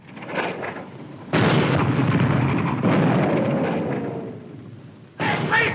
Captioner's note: bombs exploding